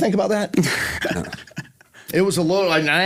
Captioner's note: laughs